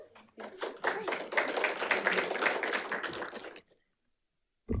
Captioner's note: group applauds